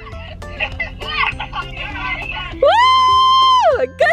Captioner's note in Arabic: كل الهتاف